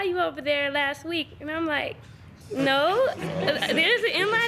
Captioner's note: students chuckling